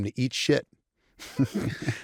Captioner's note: laughter